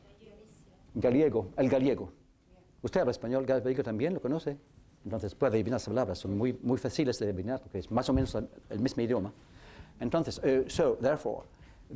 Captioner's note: speaking spanish